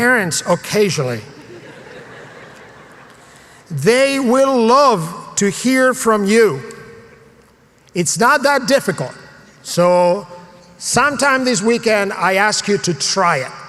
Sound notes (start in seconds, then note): 1.4 laugh